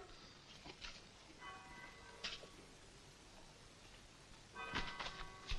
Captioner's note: clock bells toll